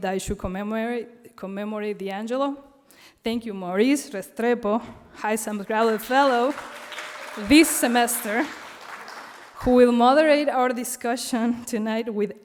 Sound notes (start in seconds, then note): 7.1 audience clapping and cheering